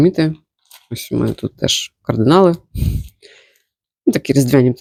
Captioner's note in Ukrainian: сопіння